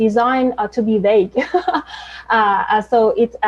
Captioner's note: laughs loudly